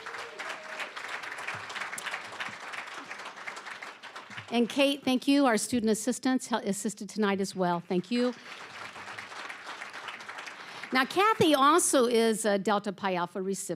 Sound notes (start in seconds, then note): 0.0 applause, cheering; 7.9 applause